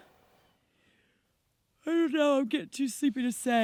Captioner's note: yawning